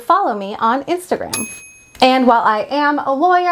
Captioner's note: bell dings